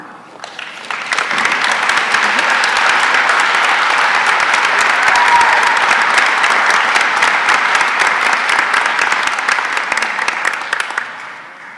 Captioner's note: applause